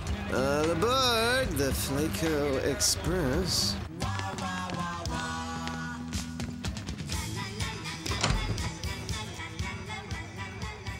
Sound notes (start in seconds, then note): none